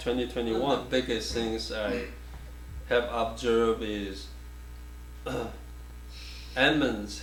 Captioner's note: clears throat